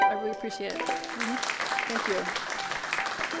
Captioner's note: clapping